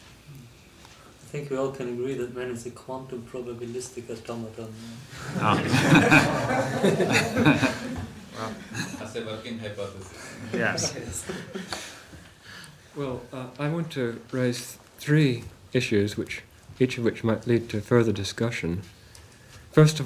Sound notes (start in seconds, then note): 5.1 laughs; 7.1 laughter